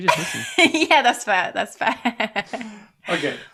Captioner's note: laughs